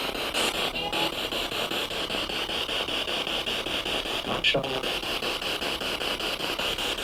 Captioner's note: noise of the spiritbox in the background